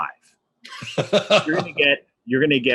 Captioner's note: laughs